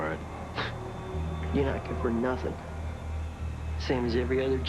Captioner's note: scoffs